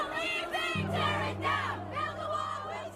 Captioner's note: protesters Chant